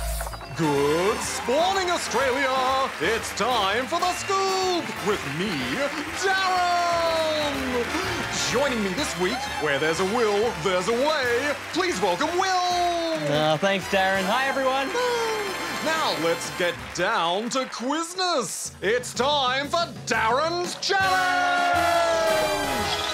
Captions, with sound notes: Good spawning, Australia! It's time for The Scoop, with me, DARREN! Joining me this week, where there's a will, there's a way! Please welcome Will! Oh, thanks, DARREN. Hi, everyone. (APPLAUSE) Now, let's get down to quizness. It's time for DARREN's Challenge!